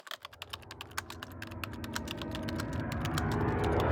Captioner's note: typing